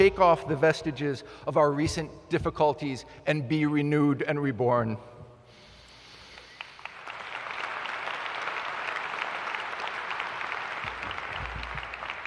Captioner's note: applause